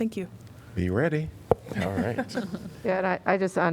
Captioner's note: laughter